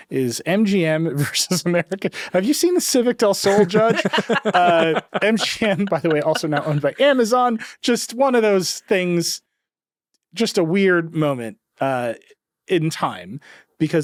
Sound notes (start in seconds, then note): 3.4 chuckling